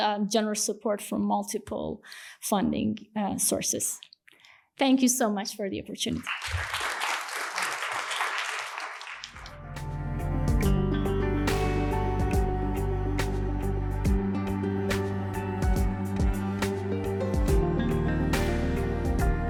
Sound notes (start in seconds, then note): 6.1 applause